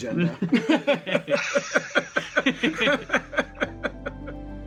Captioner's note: chuckling; heartwarming piano music